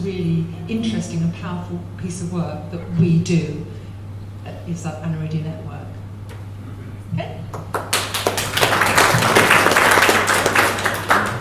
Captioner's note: applause